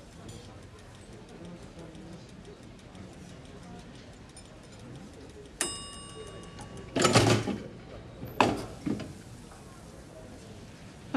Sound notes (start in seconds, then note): 5.2 timer dinging; 7.1 loud clank